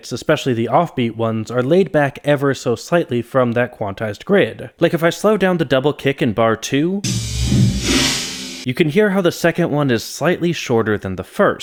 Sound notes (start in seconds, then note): 7.0 bang